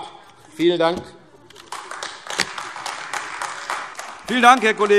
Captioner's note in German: Beifall AfD